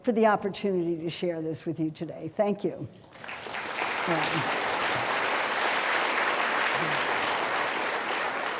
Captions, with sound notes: for the opportunity to share this with you today. Thank you. (audience clapping)